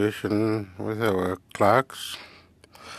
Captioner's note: speaking FRENCH